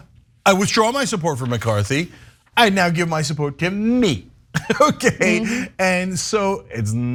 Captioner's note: laugh